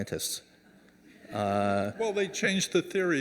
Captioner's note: audience chuckling